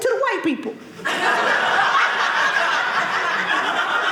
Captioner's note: audience laughing